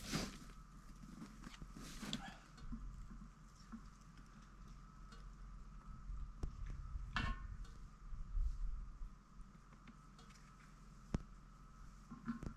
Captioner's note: footsteps